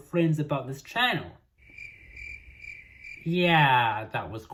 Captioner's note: cricket noises